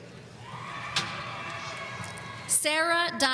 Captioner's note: audience applauding